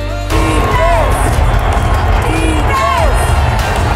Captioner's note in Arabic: هتافات